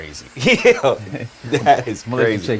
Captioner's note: laughs